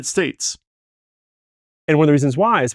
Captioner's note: awkward pause